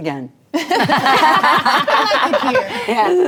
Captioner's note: ladies laughing